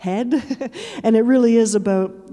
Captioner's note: chuckling